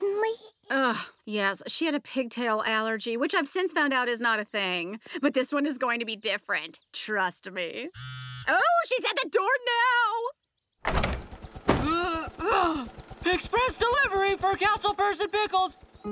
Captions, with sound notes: Ugh. Yes, she had a pigtail allergy, which I've since found out is not a thing. But this one is going to be different. Trust me. [buzzing] Oh, she's at the door now. [grunting] Express delivery for Councilperson Pickles.